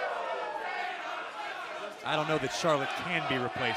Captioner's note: fans chanting